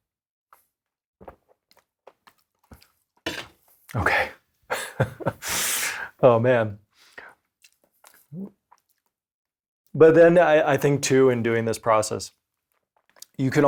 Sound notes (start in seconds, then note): 0.1 loud drinking; 4.7 laughs; 8.0 loud gulping